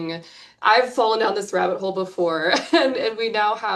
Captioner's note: chuckles